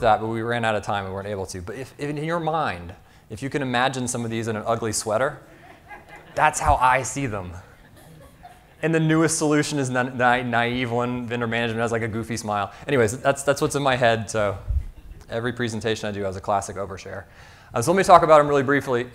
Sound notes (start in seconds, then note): 5.4 audience laughing